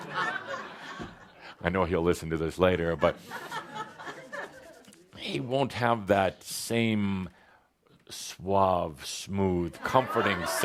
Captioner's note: laughter